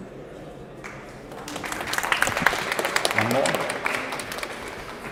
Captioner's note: applause